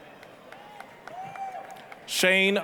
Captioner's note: applause, cheering